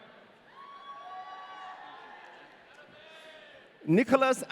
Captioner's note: audience cheering